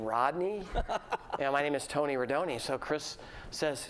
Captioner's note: laughter